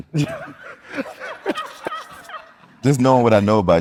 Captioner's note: group laughing